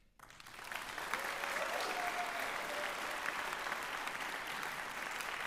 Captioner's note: applause